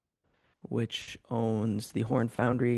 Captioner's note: speaking French